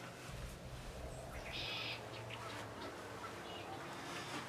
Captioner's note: birds chirping